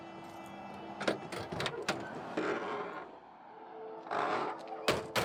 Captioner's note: car doors creaking